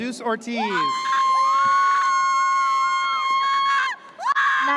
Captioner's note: audience cheers